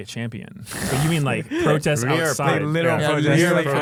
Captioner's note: laughs